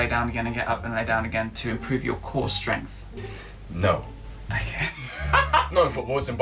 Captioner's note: laughter